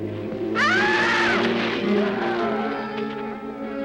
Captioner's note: Pratt screams